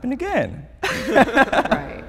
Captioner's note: laughs